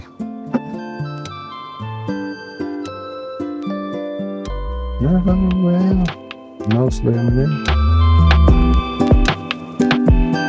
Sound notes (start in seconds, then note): 4.2 humming